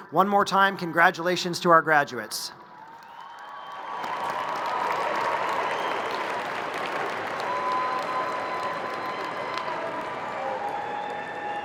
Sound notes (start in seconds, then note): 2.7 crowd cheering and applauding